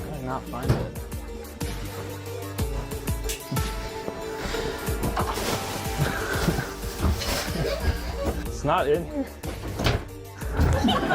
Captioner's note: audience laughter